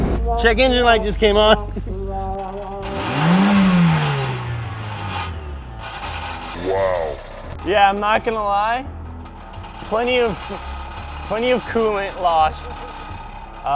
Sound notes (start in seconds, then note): 2.9 car engine revving with audible knock and grind